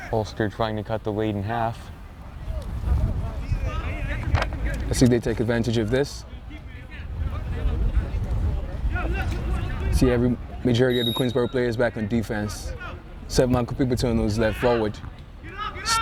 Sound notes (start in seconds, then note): 3.4 players shouting; 7.1 players shouting; 10.9 whistle tweeting